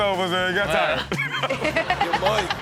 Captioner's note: audience laughs